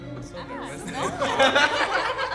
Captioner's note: everyone laughs